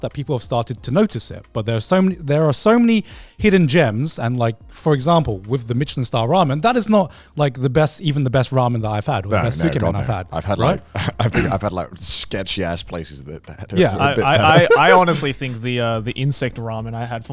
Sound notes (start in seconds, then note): 13.7 laughs